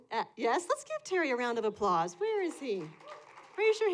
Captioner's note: applause